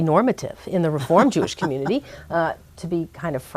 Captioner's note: laughs